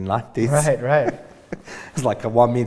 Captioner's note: laughs